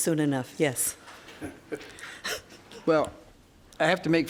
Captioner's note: laughs